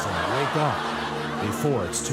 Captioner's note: studio audience laughs